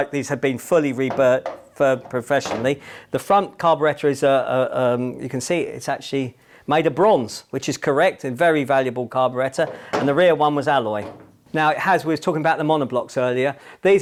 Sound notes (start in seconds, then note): none